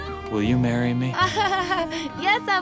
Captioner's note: laughs